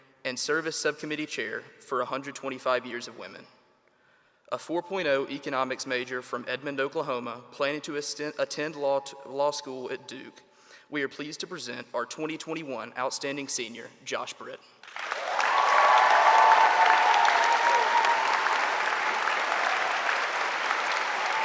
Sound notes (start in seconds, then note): 14.8 audience applauding; 14.9 audience cheering